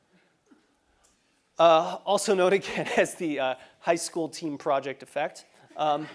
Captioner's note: laugh